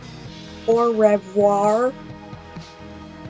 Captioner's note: american southern accent